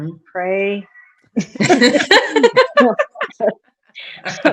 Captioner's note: chuckles